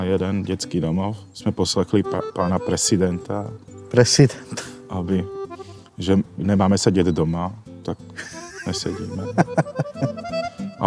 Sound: laughing

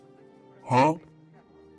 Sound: HUH? Sound effect

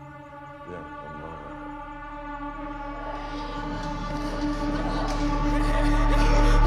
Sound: eerie music; heavy breathing

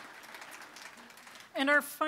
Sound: applause

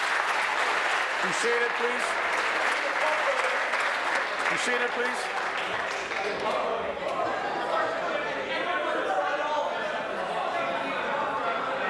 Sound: applause

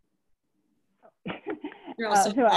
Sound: chuckles

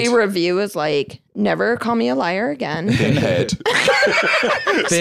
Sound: laughs

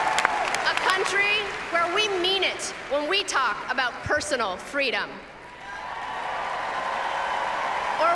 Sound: applause; applause

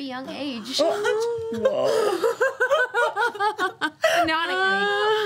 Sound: group gasping and laughing

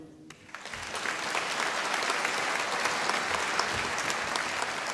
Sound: audience applauding

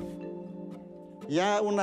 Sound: speaking spanish

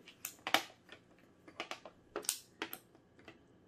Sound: clicking

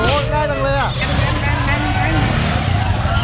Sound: imitating bike's engine

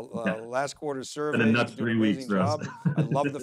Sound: laughing

